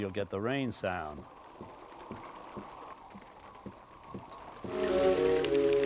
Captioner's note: sound of rain pattering